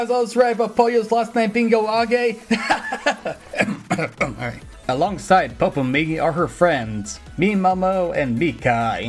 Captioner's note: ahem